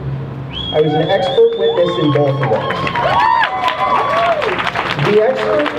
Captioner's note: crowd cheering